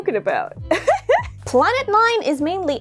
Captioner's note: laugh